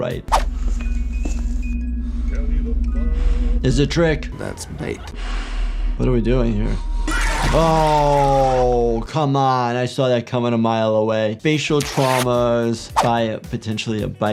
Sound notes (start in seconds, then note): 0.8 music box playing; 4.4 animatronic screaming